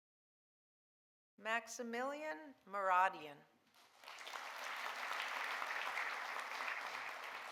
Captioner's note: audience applauding